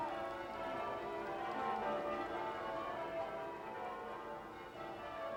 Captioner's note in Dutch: kerkklokken luiden